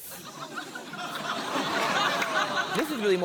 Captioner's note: laughter